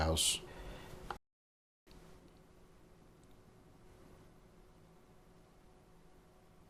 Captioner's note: silence